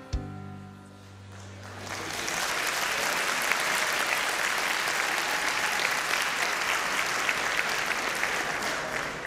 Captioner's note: applause